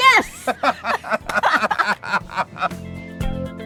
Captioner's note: laughter